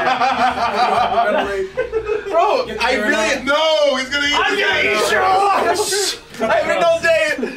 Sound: laugh

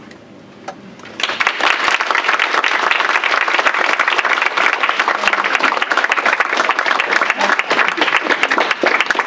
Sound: applause

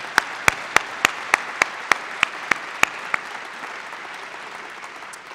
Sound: applause

